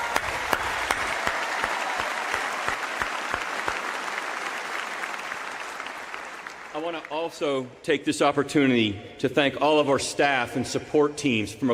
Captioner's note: applause